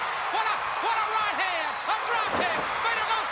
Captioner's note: crowd cheering